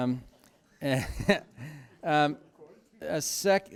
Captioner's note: laughter